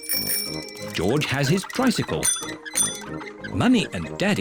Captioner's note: rings bell